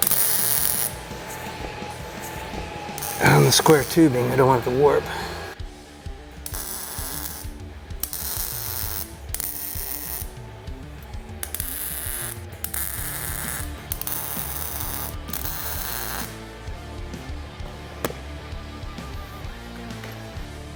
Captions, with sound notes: (tool whirring) On the square tubing. I don't want it to warp. (intense rock music) (tool whirring)